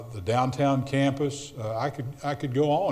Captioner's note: none